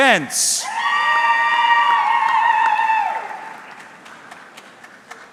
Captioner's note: audience cheering